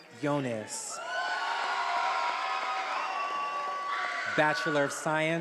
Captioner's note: attendees applauding and cheering